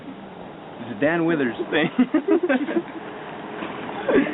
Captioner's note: laughs